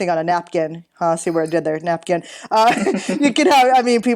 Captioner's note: chuckling